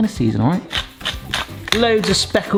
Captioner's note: grinder grates